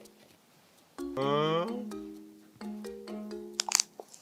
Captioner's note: scratch scratch